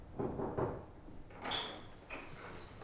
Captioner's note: knock